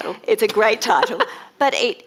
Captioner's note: laughs